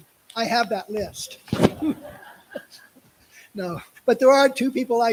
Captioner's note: laughter